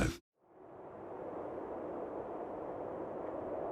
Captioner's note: wind blowing